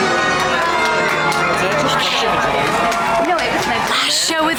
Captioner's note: hands clapping